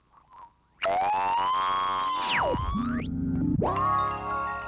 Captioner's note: tv static